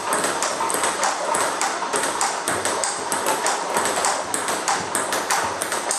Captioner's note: ball ping pong hitting continues